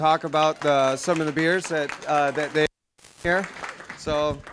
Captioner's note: applause; mic cuts out